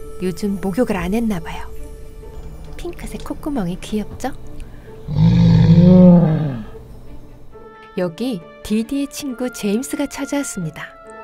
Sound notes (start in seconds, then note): 5.0 roar